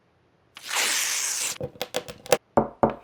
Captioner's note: ripping; crunching